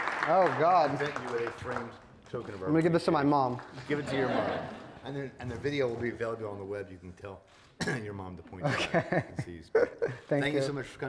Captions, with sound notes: Oh, God. We made you a framed token of our- I'm gonna give this to my mom. Give it to your mom. (attendees laughing) And then, and the video will be available on the web. You can tell (clears throat) your mom to- Okay. And see- (laughs) Thank you. Thank you so much for coming.